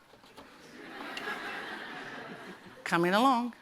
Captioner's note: laughter